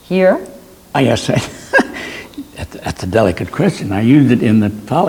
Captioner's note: laughs